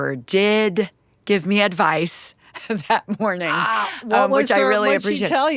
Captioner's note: chuckling